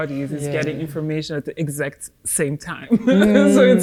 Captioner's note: laughs